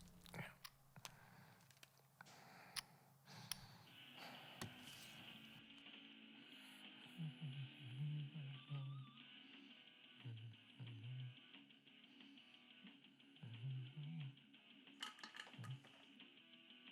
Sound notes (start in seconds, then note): 3.4 clicking; 4.4 music plays softly